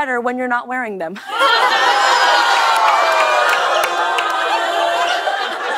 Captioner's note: audience ohs